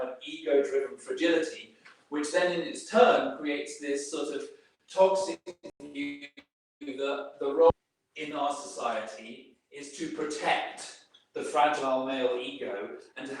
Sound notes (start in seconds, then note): 5.0 audio stuttering